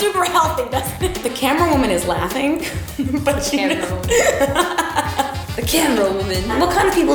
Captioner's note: laughs